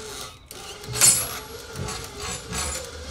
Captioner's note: chains rattling; engine whirring